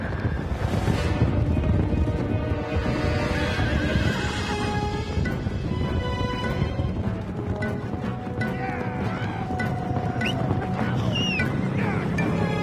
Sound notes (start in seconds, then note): 0.9 hooves trotting; 8.8 William and Fran yelling